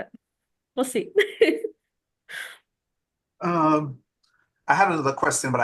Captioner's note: laughter